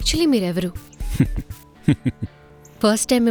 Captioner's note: chuckles